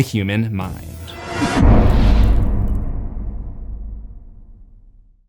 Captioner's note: impact